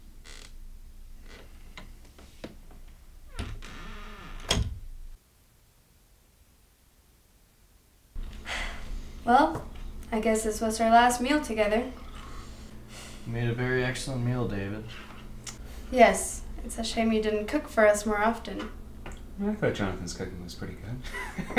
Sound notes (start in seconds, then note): 3.2 door closes